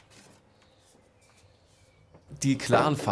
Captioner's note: distant chirping of birds